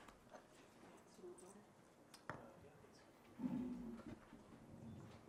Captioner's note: speaks softly